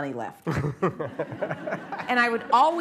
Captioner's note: laughter